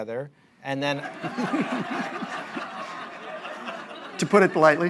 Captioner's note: laughter